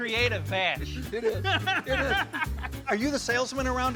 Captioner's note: laughs